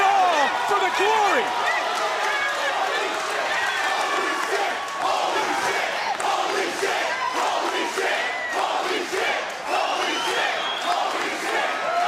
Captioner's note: crowd chants "holy --"